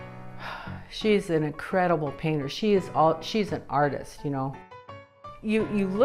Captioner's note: sighs